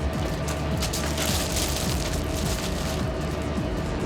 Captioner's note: footsteps on stones